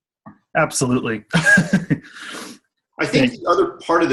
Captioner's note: laughter